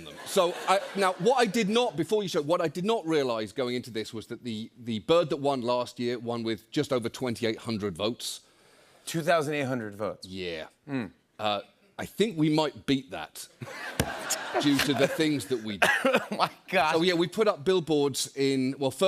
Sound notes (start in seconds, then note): 13.6 laughing